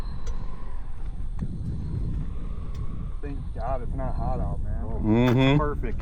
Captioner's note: exhaling